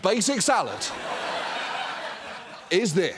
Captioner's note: audience laughs